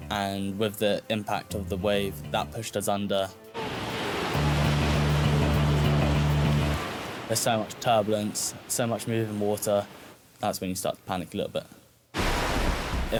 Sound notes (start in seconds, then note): 3.5 waves crashing